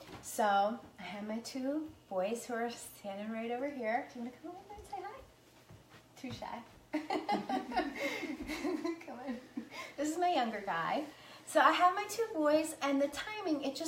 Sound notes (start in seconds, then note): 7.0 laughing